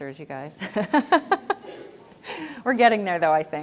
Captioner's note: laughs gently